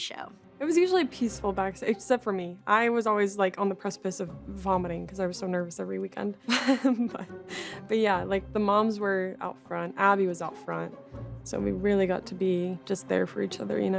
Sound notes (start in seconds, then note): 6.5 laughs